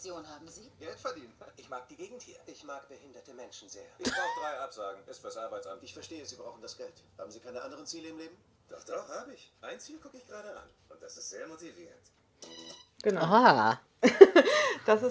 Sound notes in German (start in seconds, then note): 4.0 lachen; 12.4 fetzige musik; 14.0 lacht